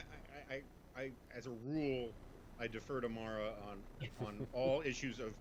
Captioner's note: laughs